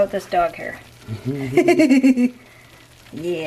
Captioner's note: laughter